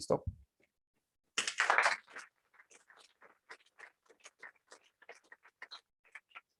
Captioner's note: applause